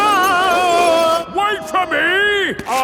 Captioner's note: yelling